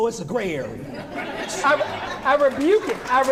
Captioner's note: laughing